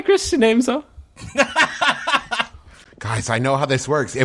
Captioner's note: laughing